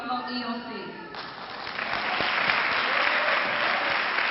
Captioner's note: clapping